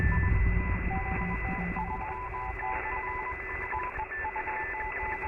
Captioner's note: rapid beeping and whirring